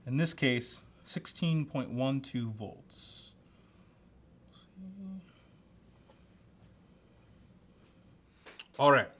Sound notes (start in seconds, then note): 2.6 humming softly as he works